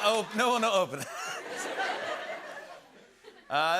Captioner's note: laughter